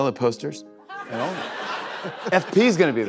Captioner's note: laughter